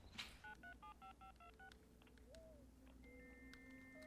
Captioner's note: phone Dialing; modem Buzzing